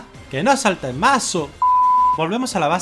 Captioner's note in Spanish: pitido